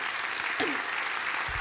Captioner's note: applause